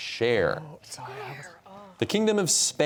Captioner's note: whispering